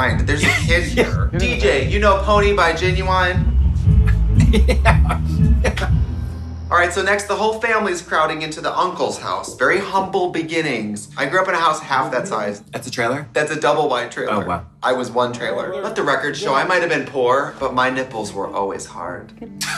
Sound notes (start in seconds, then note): 4.0 laughing